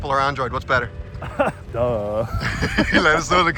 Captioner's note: laughs